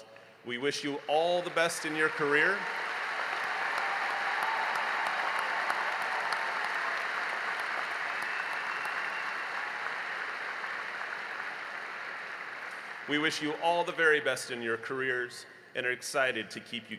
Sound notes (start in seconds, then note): 5.2 applause